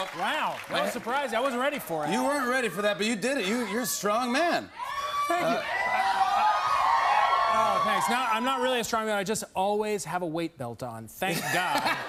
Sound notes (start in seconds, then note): 4.7 cheers and applause